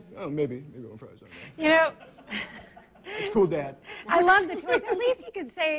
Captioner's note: laughs